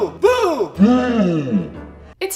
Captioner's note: slowed Down, Low Pitched